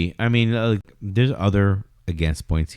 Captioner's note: uh